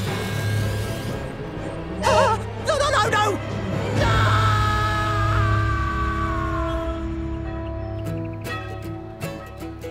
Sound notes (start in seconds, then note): 2.0 gasps; 3.4 screaming, echoes